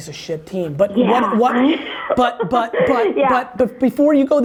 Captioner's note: laughs